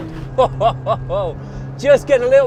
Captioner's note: chuckles